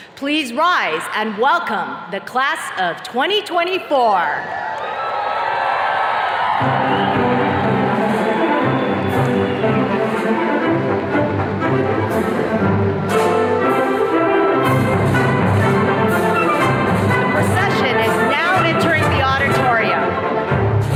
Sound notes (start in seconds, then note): 4.4 attendees cheers and claps; 7.5 jubilant music